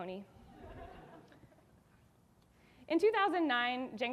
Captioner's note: audience laughing